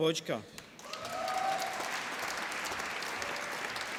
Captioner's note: applause